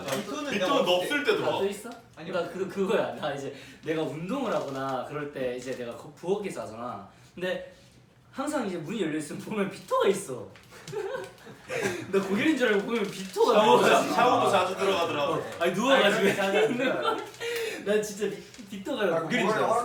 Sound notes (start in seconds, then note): 10.7 giggles